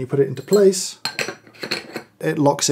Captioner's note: tumbler clinking